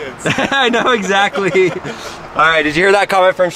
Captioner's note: laughing